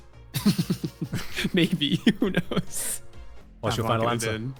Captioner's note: chuckles